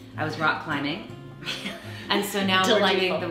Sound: both laughing

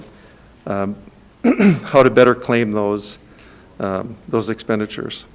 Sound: clears throat

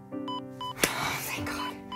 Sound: monitor beeping

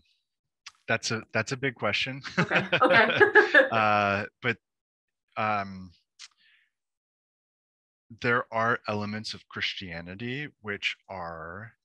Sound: laughs

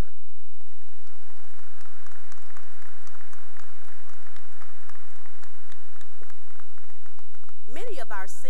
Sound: cheering and applause

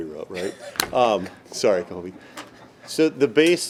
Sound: laughing

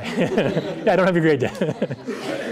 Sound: laughter

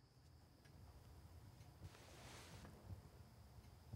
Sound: insects chirring

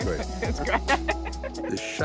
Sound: laughing

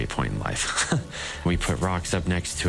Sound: chuckling

